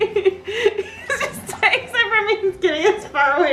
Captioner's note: laughs